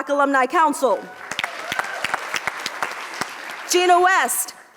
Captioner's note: audience applauds